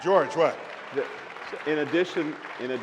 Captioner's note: applause